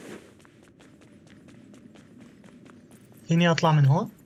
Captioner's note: footsteps